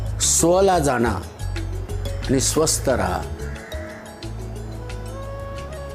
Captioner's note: speaking Marathi